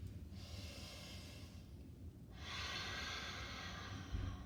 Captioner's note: breathing deeply